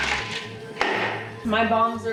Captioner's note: cup slamming on counter